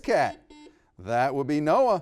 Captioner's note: buzzer buzzing